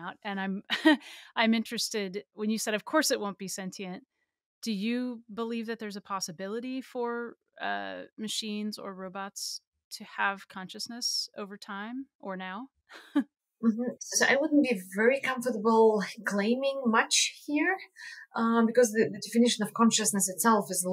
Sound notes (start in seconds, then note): 12.9 chuckles